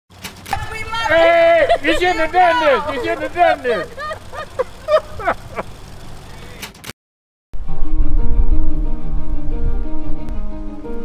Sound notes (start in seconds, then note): 1.1 laughter; 7.6 uplifting music